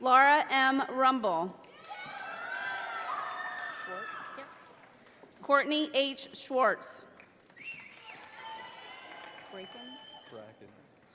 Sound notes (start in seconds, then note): 1.8 audience applauding; 7.2 audience applauding